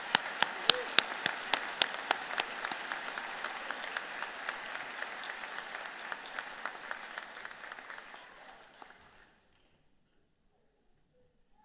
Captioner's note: applause